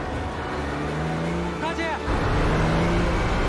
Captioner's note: soldier calls out in foreign language